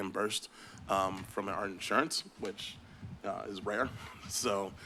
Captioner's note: chuckle